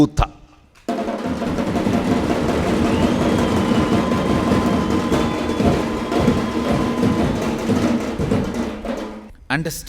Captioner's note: celebration happening